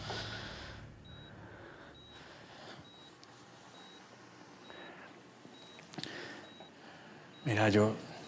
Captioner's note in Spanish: sonido del monitor